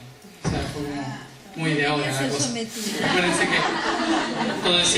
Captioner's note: laughs